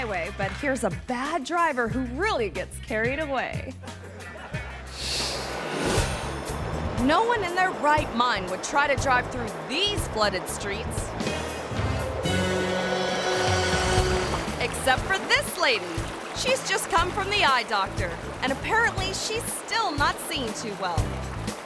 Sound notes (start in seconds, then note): 3.8 audience laughing; 5.0 screen whooshes; 11.3 suspenseful music